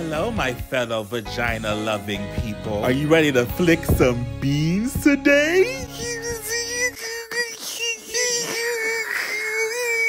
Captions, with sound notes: - Well, hello, my fellow vagina-loving people. Are you ready to flick some Beanz today? (whimpering)